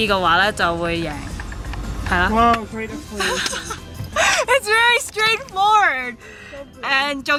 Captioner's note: laugh